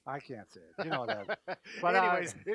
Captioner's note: laughing